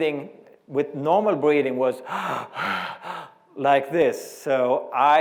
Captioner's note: breathing